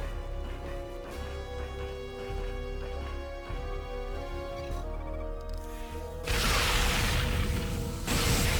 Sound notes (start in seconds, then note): 0.7 tense music; 2.6 explosion